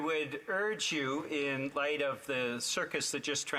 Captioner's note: speaking FRENCH